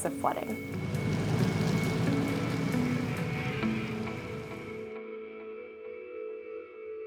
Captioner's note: car driving away